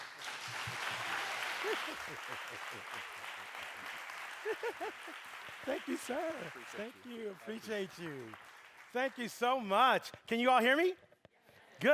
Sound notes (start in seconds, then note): 0.3 applause; 4.4 laughing